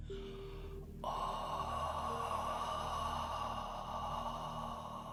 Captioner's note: exhaling